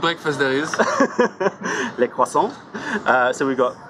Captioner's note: laughter